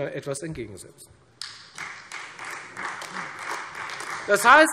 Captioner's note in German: Beifall Freie Demokraten und AfD